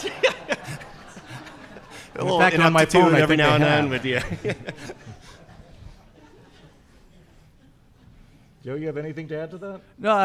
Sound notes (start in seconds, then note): 0.2 audience laughing; 6.3 laughs